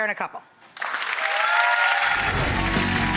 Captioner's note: audience applauds; upbeat music